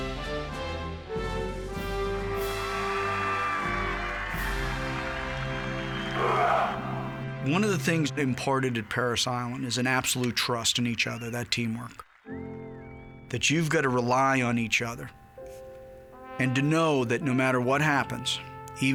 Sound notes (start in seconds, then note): 2.7 people applauding